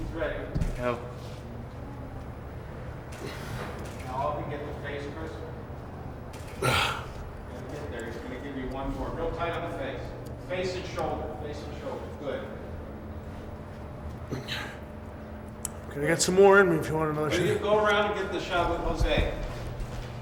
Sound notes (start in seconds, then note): 3.3 Shawn grunting; 5.8 group chattering; 14.3 Shawn grunts